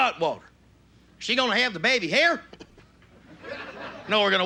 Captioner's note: redneck voice